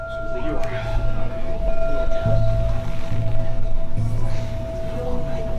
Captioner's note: singing bowl